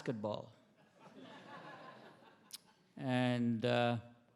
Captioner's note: attendees laughing